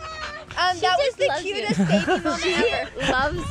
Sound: laughs

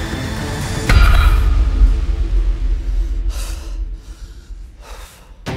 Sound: intense tactical music; heavy breathing; weights banging

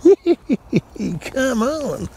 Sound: chuckles

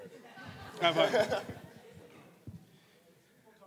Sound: laughing

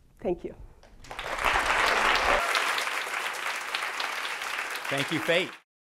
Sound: audience clapping

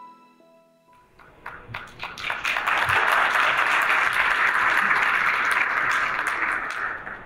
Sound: applause

